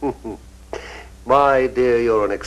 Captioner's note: Francis chuckles